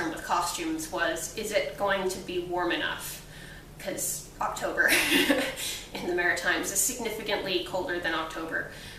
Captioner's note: laughs